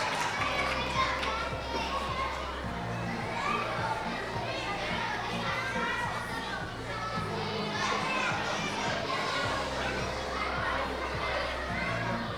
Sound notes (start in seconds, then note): 4.9 audience chattering continues